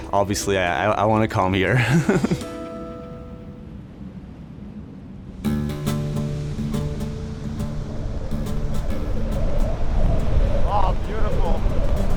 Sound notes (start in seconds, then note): 1.7 chuckling; 5.4 guitar strumming; 9.0 waves crashing